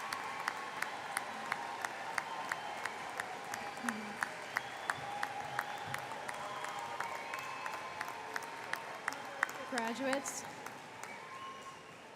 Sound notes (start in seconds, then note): 1.8 cheering